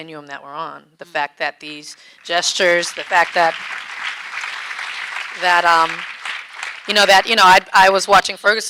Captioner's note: audience clapping